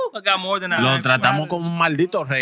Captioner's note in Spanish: Hablando en idioma extranjero